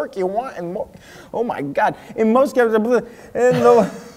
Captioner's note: giggles